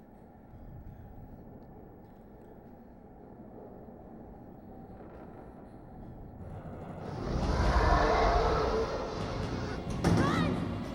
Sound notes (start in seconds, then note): 6.6 roars